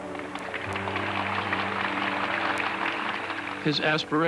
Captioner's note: applause